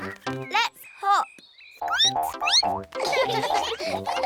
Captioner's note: squeaks; all giggle